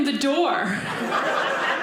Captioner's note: audience laughing